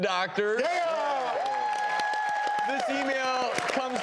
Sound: audience cheering

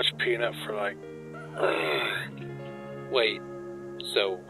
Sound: groans

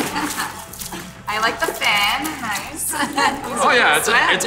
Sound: laughing; laughs

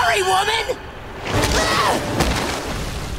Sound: screaming

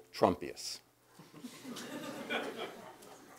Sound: laugh

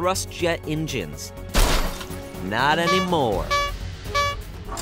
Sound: crash sound

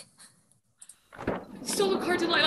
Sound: van door slides open

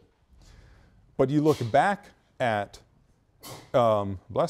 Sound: student sneezes

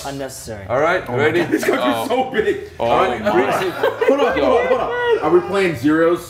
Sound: laugh

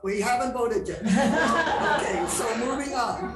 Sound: crowd laughing

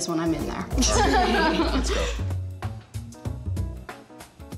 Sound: laughing

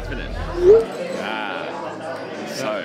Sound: text chimes

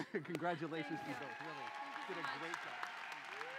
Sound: cheering

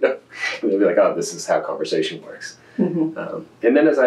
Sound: laughs

